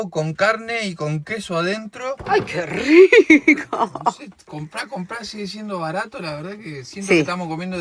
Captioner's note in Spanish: risas